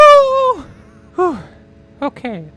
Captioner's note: sigh